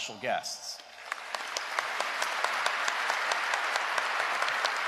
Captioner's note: applause